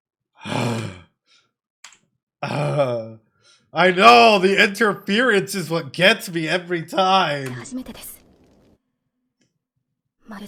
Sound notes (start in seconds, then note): 0.4 sigh